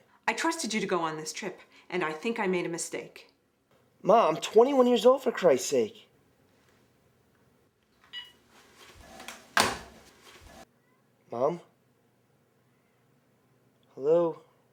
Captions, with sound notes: - I trusted you to go on this trip, and I think I made a mistake. - Ma, I'm 21 years old, for Christ's sake. (phone beeps) (phone thumps) - Mom? Hello?